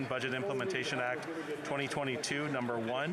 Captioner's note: speaking French